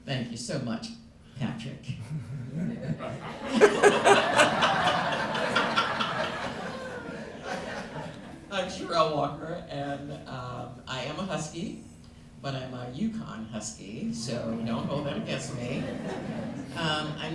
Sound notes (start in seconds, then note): 1.9 laughter